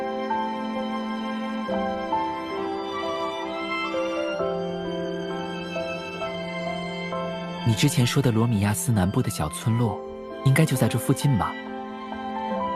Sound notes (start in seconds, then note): none